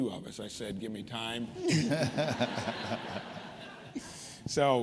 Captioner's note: laughter